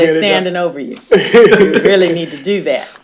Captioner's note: laughter